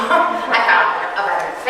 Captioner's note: audience chuckling